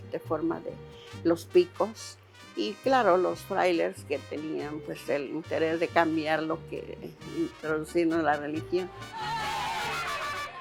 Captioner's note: speaking Spanish